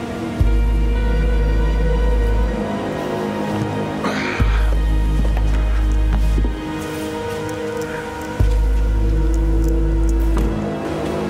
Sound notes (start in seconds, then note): 4.2 man sighs; 6.9 eerie music